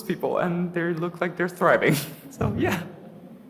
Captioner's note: laughs